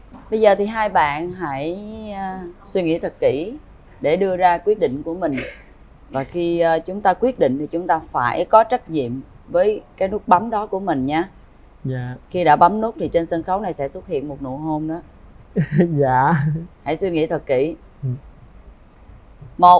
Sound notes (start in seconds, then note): 15.6 laughter